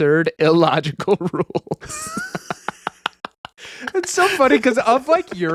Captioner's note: laughing